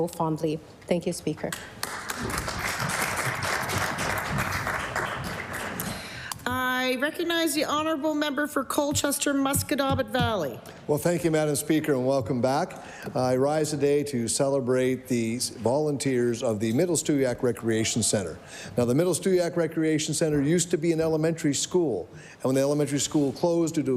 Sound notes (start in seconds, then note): 5.3 applause